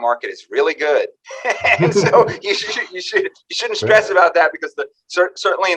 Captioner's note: both laugh